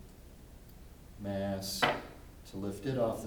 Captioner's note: weight thuds on table